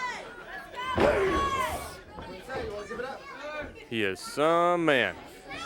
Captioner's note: crowd chatter